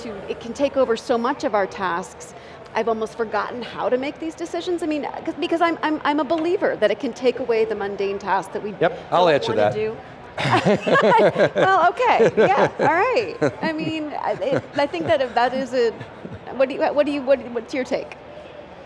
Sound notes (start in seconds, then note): 10.4 all laugh